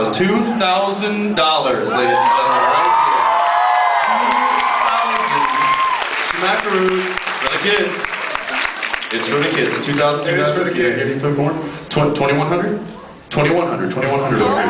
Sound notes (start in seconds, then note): 3.0 cheers; 7.2 applauds